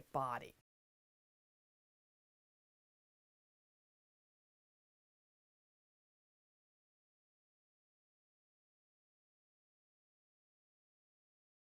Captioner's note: no Sound Present